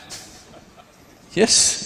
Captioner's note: laughs